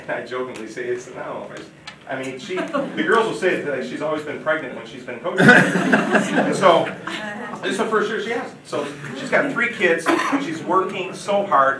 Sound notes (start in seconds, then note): 0.3 chuckles; 2.4 audience laughing; 5.4 audience laughing